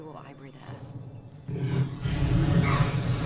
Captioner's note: roars